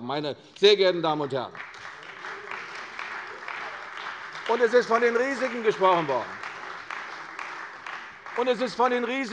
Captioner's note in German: Beifall bei der CDU und dem BÜNDNIS 90/DIE GRÜNEN